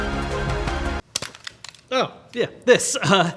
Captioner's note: plastic clattering